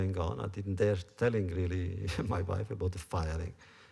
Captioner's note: laughs